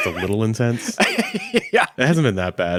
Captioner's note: laughing